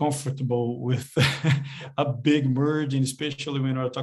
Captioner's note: chuckles